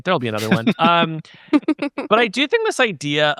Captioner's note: chuckling